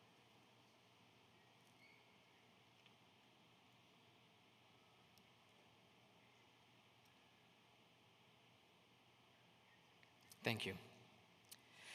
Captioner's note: silence